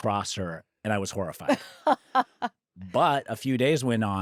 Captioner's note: laughs